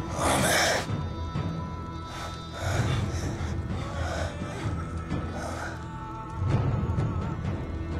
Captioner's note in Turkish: Nefes sesleri